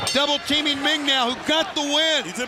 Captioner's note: bell ringing